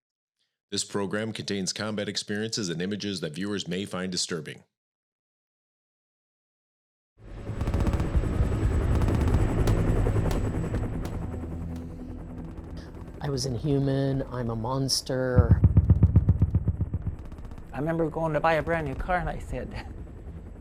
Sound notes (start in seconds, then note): 7.7 helicopters rumbling; 10.8 ominous music; 14.9 helicopter rumbling muffling